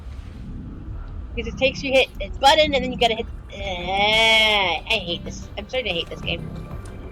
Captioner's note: angry agh